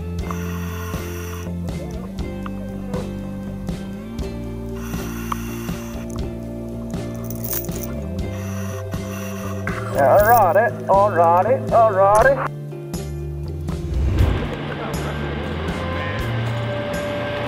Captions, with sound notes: (air hisses) (air hisses) (air hisses) Alrighty, alrighty, alrighty. (people chattering)